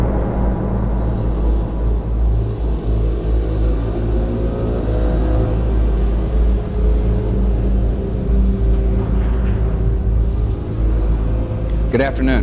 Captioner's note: soundbite of archived recording